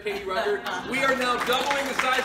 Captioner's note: audience applauds